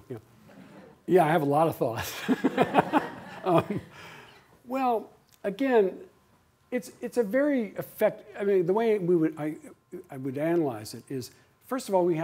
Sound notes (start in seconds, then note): 2.2 laughs